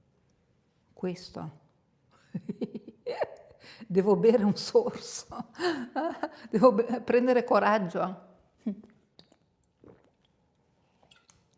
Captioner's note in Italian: risate